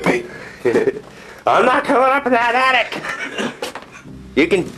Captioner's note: laughs